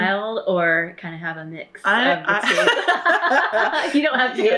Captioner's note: laughter